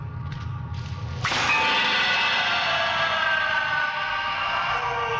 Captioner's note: distant screams